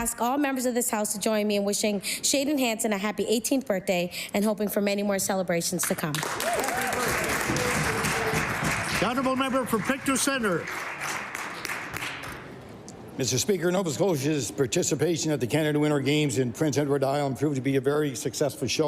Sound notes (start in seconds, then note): 10.8 applause